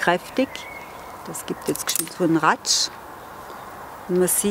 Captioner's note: tearing noise